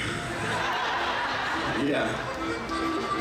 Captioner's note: audience laughs